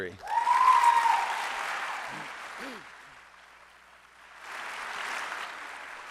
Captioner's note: applause